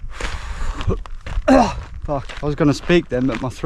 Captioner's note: chokes